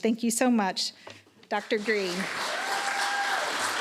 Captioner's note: applause